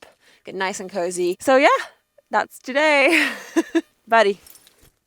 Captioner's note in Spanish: risas